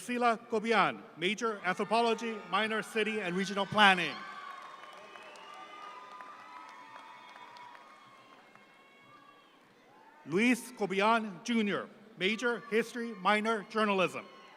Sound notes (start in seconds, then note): 3.4 audience applauds